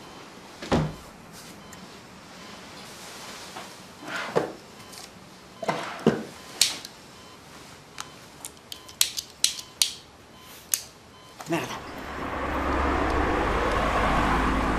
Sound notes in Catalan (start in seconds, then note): 2.1 pip-pip-pip-pip